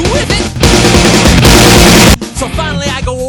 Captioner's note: even more aggressive knocking